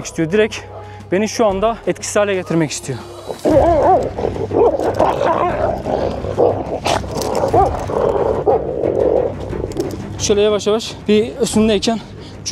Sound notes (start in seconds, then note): 2.1 growling, barking sounds and tension music